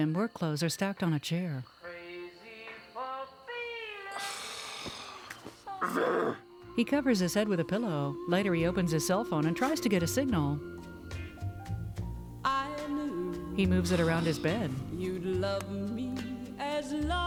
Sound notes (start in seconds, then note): 2.9 sighs, Groans; 9.1 scoffs; 13.8 sighs